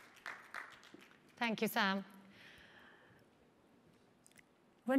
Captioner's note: applause